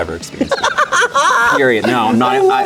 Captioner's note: laughs